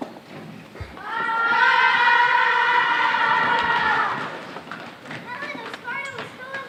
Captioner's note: warriors shouting battle cries